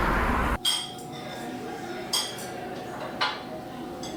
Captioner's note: group chattering